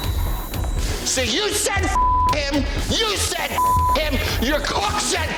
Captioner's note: beep